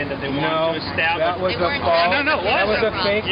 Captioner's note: voiceover